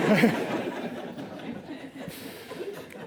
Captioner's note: laughing; laughs